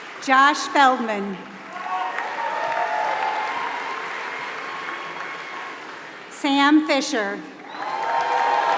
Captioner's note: applause; applause